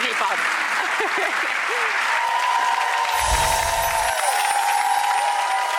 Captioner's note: cheering; clapping